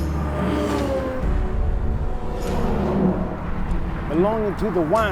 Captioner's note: tools clanking; vehicles roaring